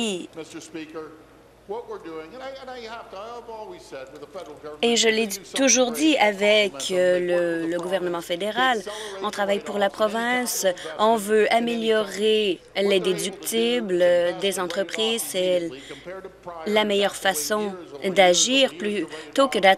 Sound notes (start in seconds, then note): none